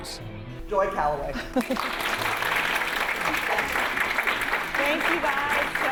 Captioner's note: audience applauding